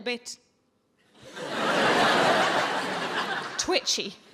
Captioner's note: audience laughing